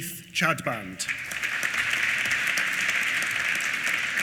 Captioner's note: applause